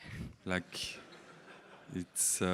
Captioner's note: audience laughing